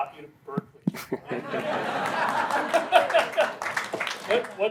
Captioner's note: laughter